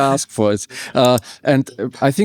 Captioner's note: laughs